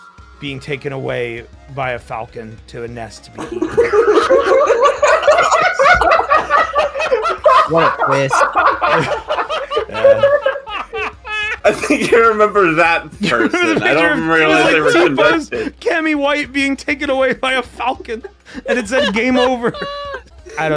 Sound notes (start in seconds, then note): 3.4 laughter; 18.5 laughs